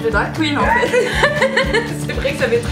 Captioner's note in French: rires